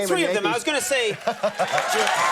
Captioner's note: Kevin laughs; audience applauds